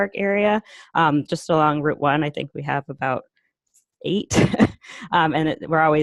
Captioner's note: laughter